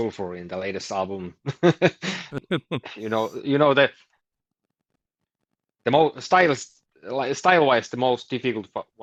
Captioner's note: laughs